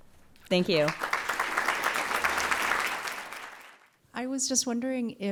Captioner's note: applause